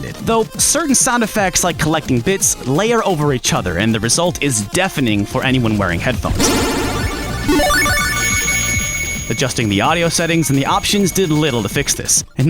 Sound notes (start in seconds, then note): 6.3 A loud cacophony of bits